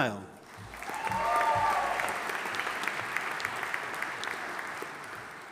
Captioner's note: audience applauding